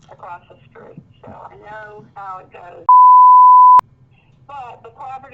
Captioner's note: beep